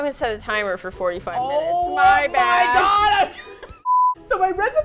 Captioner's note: both laugh